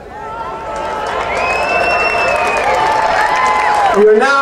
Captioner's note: audience cheering and applauding